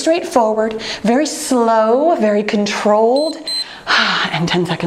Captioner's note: timer beeps